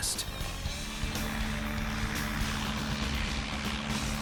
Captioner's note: engine roars